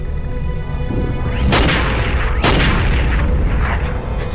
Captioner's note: gun shots